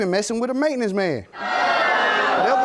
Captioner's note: audience jeering